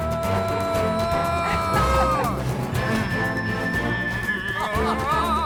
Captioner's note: yelling and laughing